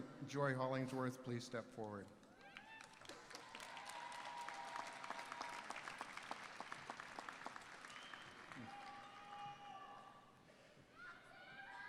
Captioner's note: applause